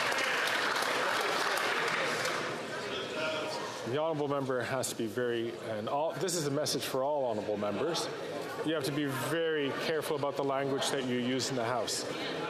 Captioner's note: some Applause